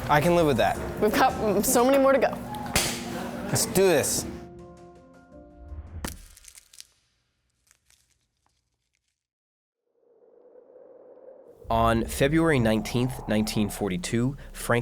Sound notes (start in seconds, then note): 3.1 clapping; 6.1 shattering